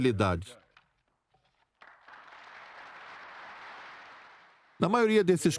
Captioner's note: applause